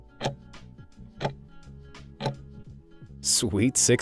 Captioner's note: timer ticking